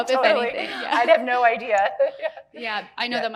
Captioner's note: both laughing